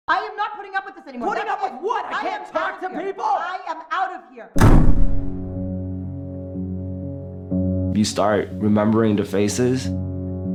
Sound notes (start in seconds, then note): 0.1 man and woman yelling; 4.5 door slams